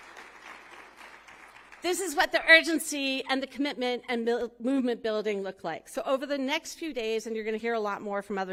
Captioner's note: applause